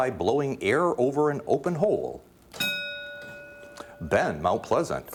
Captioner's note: ding